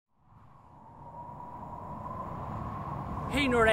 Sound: wind blowing

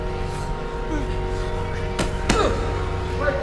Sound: grunts

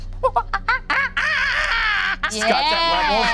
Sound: whoops

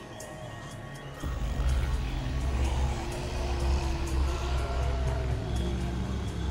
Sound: spooky music; zombies growling

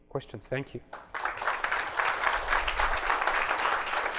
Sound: applause

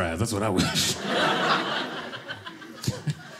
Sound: audience laughing

